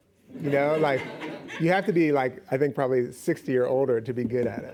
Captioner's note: laughing